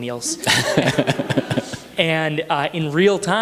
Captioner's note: audience chuckles